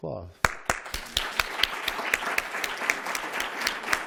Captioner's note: applause